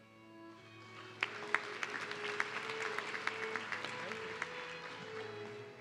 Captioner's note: audience clapping